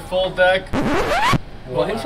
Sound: record screeches

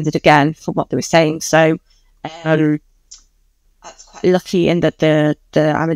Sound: voice distortion

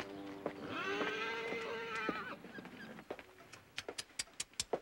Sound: Sam neighs

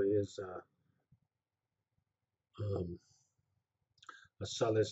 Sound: pause

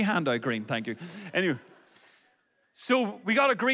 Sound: audience laughs

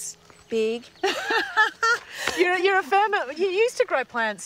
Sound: laughs

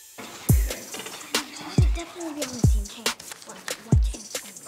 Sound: all whispering

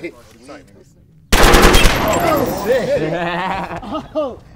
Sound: gun firing

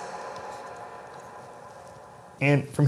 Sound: echo ends

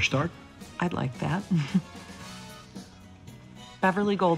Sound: chuckles

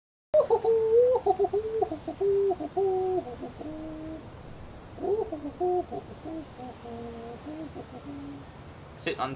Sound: monkey Noises

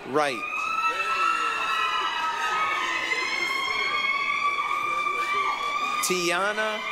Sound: applause, cheering

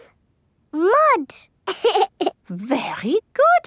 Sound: laughs

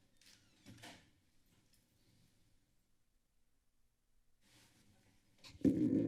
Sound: silence; door closing; silence

